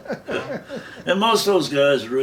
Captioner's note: laughing